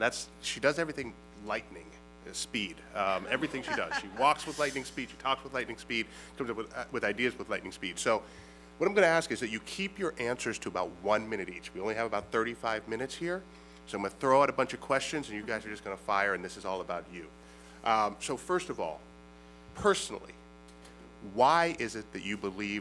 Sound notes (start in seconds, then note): 3.0 laughter